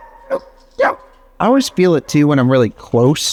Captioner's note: dogs bark